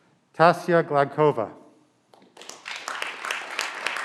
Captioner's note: clapping